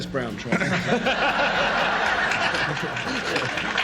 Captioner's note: audience laughs